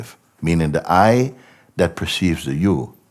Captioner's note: none